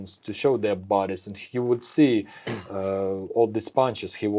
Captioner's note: clears throat